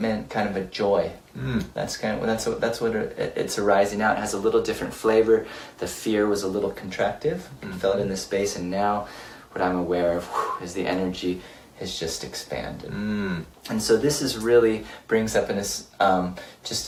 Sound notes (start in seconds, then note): 10.3 exhales loudly